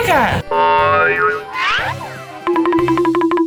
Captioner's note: cartoony blooping; quick tapping